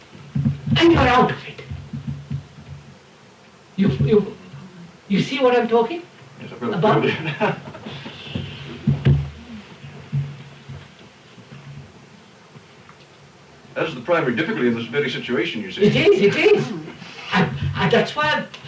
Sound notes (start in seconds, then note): 11.5 laughs